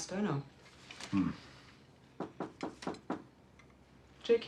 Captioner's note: knocking